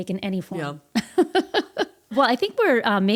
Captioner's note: laughing